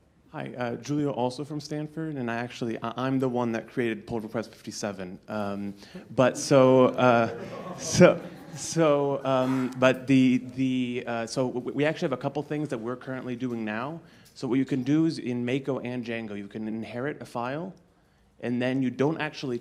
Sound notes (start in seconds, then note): 6.0 laugh